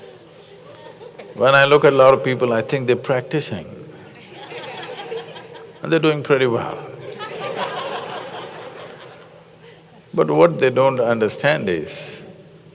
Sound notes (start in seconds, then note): 4.1 laughter; 7.0 laughter